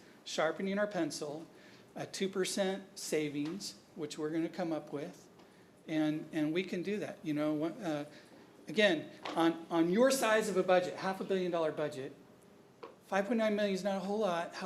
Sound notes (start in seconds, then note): none